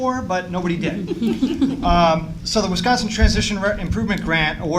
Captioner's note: laughter